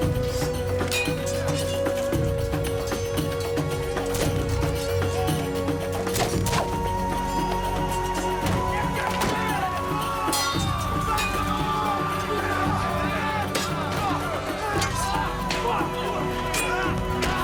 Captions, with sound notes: (yelling) SLAY THEM ALL! (grunting)